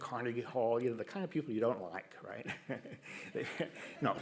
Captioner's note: laughs